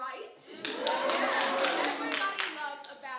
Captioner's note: audience cheering